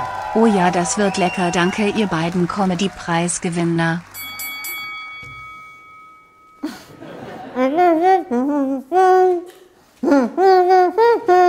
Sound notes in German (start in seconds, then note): 6.6 Kichern; 7.5 lallend